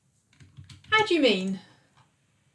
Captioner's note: keyboard clicks